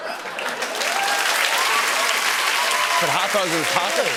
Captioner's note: cheers and applause